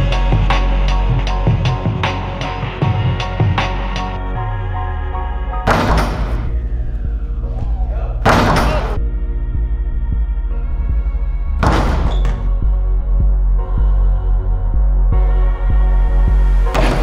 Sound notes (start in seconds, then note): 5.6 basket thumps; 11.6 basket thumps